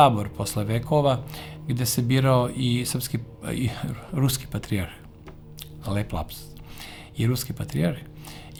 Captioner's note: Serbian